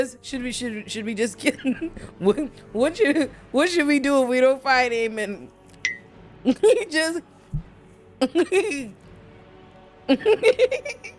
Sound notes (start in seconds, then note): 5.8 bell dings; 10.1 laughs